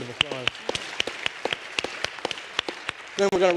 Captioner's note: applause